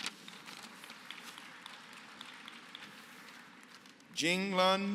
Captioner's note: applause